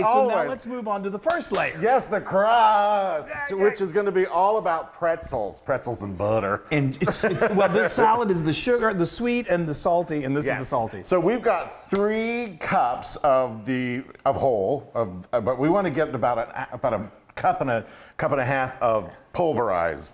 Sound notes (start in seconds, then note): 1.3 clapping